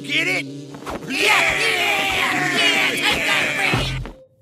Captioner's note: cheering